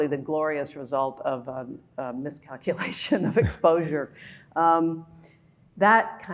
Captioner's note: laughing